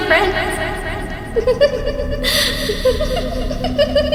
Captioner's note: giggling